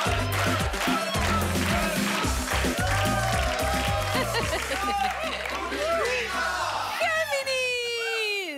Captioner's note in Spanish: Aplausos; Exclamaciones